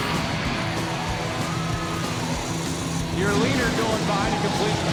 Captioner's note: crowd cheering; tires squealing